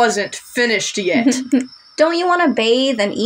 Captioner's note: giggle